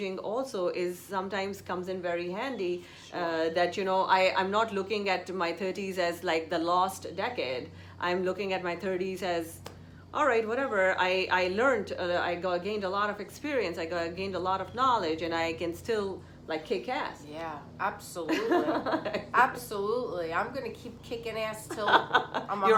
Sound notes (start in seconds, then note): 18.2 laughs